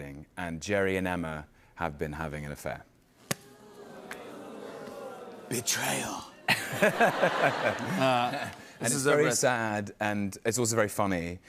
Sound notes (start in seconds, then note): 3.5 audience oohs; 6.4 laughter